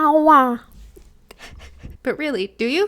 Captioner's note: laughing